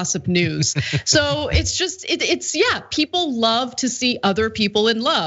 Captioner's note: laugh